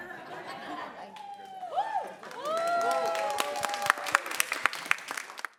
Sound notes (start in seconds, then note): 1.1 applause, cheers